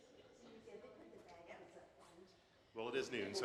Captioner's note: attendees chattering